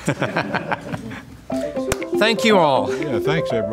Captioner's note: laughs